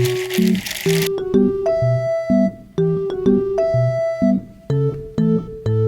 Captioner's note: snap